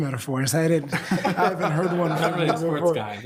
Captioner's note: all laughing